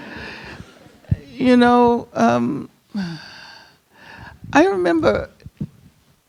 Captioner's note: audience chuckling; sighs